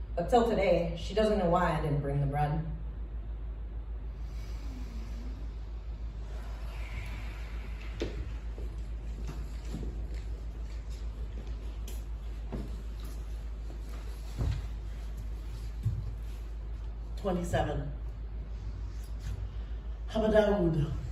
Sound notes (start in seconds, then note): 4.2 inhale; 6.7 exhale